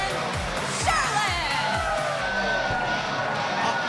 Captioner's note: cheers and applause